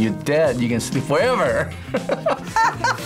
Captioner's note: laughs